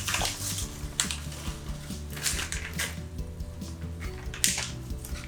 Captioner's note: packet rustling